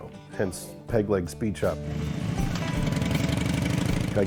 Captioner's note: motorcycle engine revving